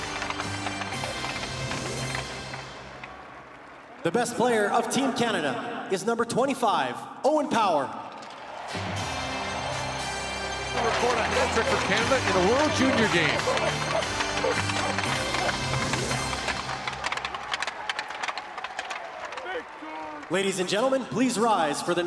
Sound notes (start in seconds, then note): 9.4 cheering APPLAUSE; 14.1 cheering APPLAUSE; 18.4 cheering a APPLAUSE